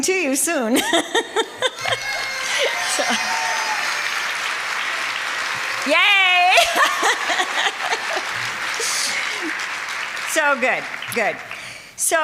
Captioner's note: applause